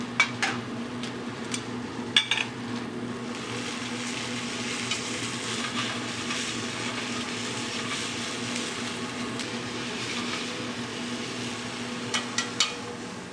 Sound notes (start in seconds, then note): 4.0 pan sizzles